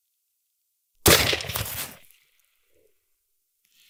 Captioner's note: gunshot